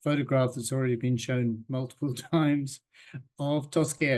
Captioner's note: chuckles